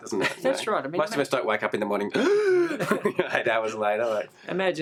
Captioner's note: gasping for air